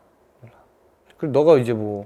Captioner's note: whisper